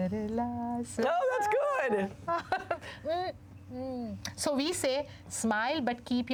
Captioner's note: laughter